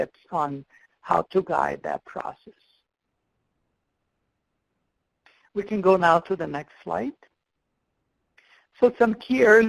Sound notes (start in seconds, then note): 3.2 pause